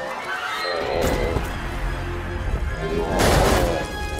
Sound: moaning; roaring

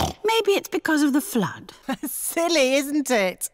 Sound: snorts; laughs

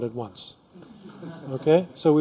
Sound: laughter

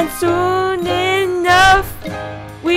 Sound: door open

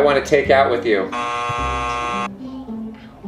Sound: buzzer buzzing

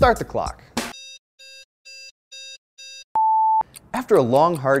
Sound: beeping

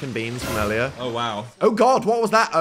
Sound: startling sound plays

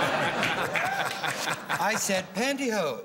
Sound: laughter

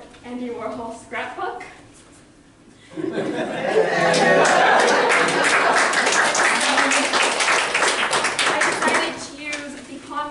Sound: loud laughter and applause

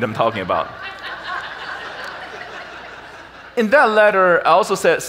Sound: audience laughs

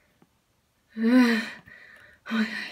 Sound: long Breathe

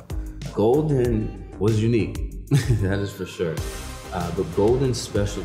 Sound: laughs

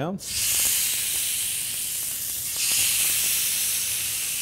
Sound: sizzling sound

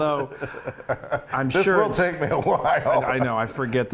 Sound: laughing

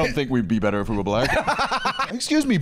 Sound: laughs

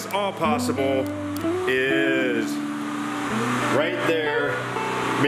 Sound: generator running

